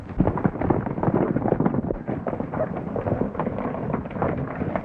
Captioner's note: horses galloping